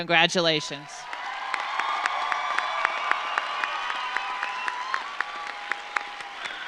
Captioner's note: audience cheers; audience applauds